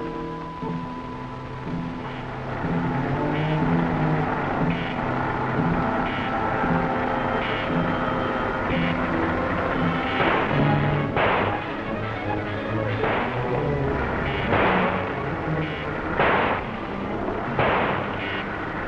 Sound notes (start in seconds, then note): 2.4 iron man beeping and whirring; 9.8 gun firing